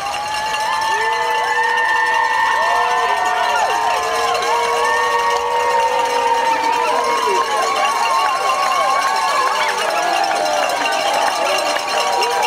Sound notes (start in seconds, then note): 0.0 cheering